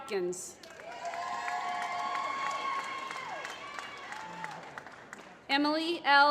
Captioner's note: applause